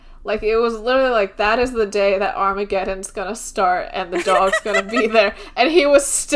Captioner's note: laughing